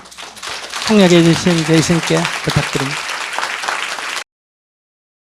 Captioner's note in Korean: 청중 박수